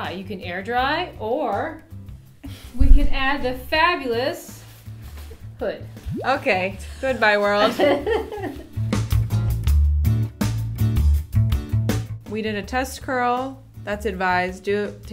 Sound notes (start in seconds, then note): 8.2 laughs; 8.9 upbeat music